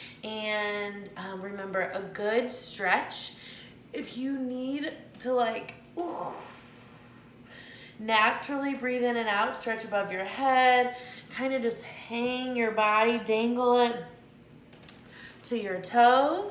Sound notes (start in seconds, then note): 7.4 exhales softly